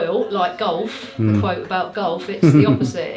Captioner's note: laughter